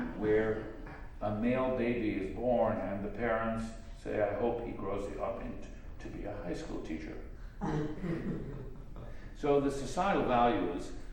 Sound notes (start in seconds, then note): 7.6 laughter